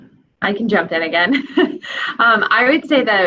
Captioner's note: giggling